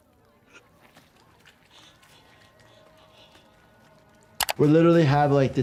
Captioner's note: breathes heavily